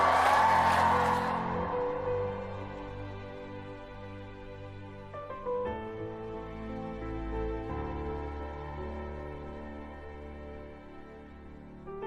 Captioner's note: chanting